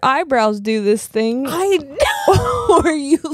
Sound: both laughing

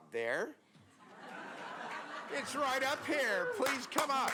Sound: applause

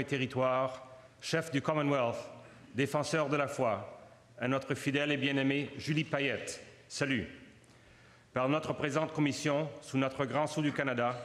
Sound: speaking French

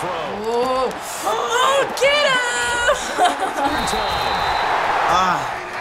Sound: laughs

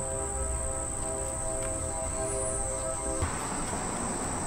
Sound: train horn blaring

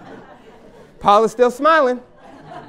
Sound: laughter

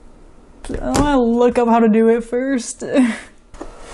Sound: heh

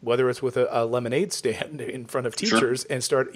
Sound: laughs

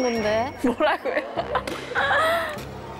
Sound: hahahaha

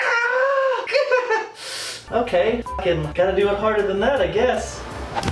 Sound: winces

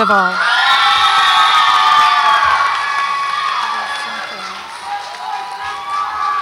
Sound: audience applauds and cheers

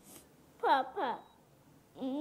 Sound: in Twi

